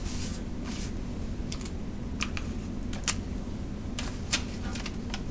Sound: sounds of tape dispenser

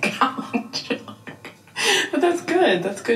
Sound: chuckling

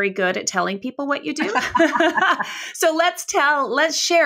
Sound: both laughing

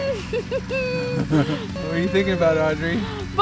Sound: laughing

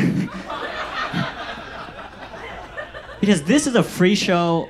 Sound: audience laughs

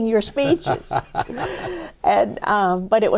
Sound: laughter

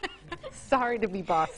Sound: woman laughing

